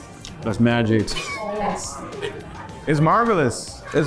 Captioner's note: laughs